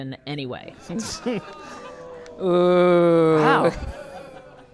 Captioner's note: audience booing